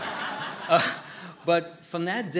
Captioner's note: laughter